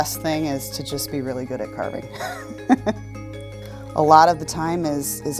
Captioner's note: laughs